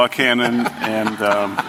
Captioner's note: laughter